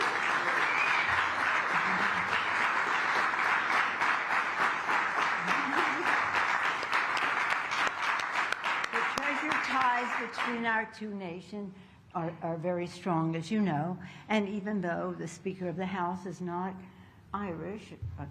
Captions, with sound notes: (Applause.) The present ties between our two nation are very strong, as you know. And even though the speaker of the House is not Irish --